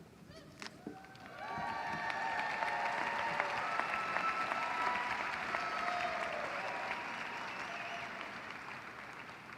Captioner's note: applause